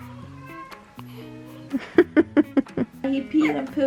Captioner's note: laughing